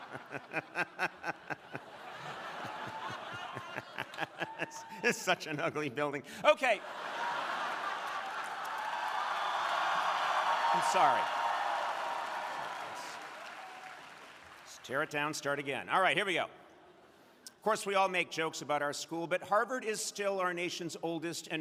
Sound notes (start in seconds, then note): 0.0 Conan laughing; 6.5 crowd laughing; 9.4 crowd cheering